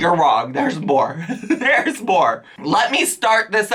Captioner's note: laughs